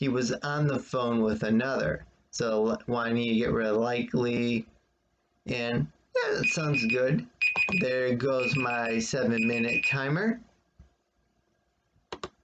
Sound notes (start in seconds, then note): 4.8 beeping sounds start; 7.5 click of trackpad